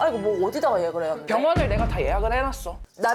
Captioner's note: authoritative sound effect